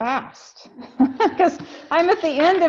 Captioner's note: laughs